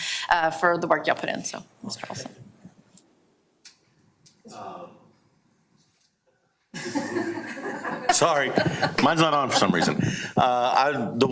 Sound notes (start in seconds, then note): 6.8 audience laughter